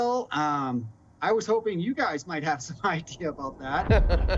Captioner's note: chuckles; laughs